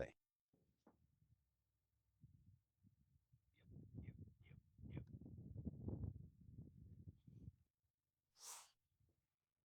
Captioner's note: wind Blowing